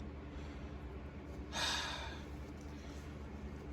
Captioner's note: sighs